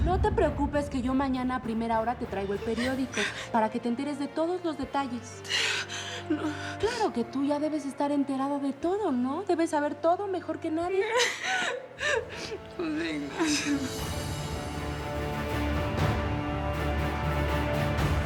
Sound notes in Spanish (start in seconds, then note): 10.8 Sollozos